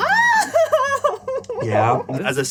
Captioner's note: laughs